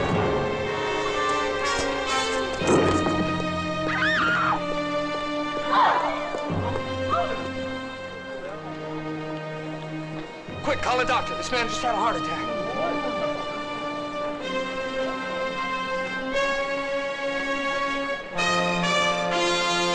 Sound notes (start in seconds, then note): 3.8 woman screams